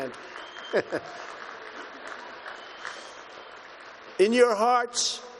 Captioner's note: applause